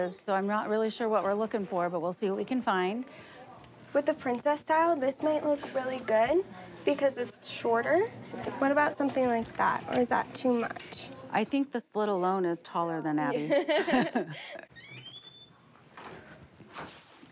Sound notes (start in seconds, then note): 13.5 laughs